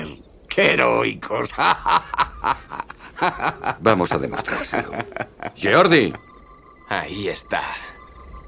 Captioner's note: laughs